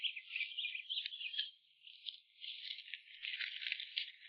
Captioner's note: birds chirping